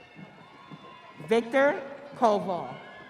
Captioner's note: audience cheering